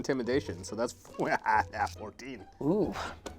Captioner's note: laughing